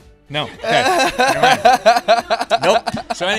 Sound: Tyler P. Laughing

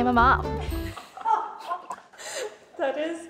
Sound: laughing

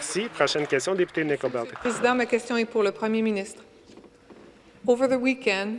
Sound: some Applause

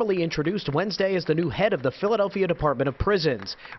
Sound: applause

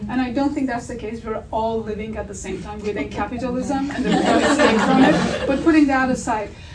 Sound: audience laughter

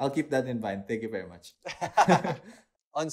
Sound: laughs

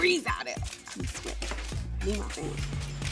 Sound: camera shutters clicking

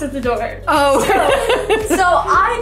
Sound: laughing

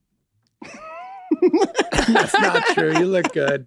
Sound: Rob and Charlie laugh

